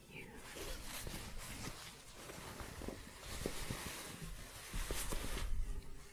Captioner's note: shuffling